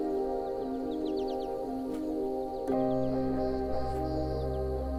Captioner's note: birds chirping